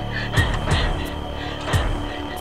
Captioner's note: choking